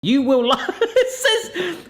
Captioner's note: laughing